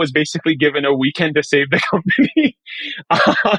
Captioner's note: chuckling